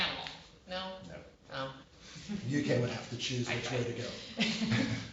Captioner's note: laughter